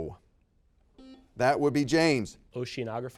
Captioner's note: buzzer beeps